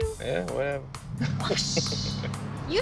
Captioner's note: laughs; swoosh